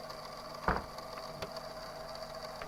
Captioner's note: door closes